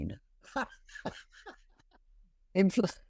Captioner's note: laughs